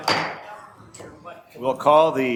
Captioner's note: gavel bangs